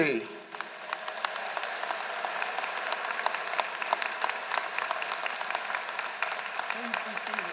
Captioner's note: applause